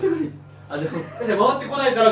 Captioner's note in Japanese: 笑い